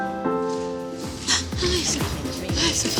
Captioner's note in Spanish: Grito ahogado